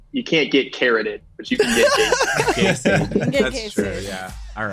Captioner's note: group chuckles